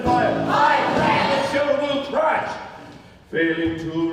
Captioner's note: chanting